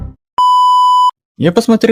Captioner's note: Error Signal